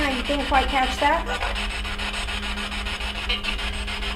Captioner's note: static buzzing